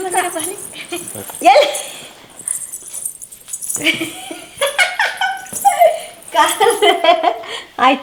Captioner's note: is laughing